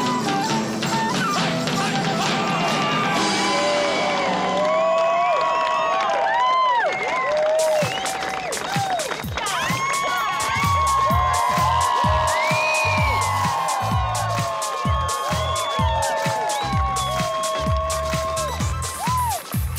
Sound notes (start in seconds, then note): 2.7 crowd cheering and clapping; 7.1 techno dance music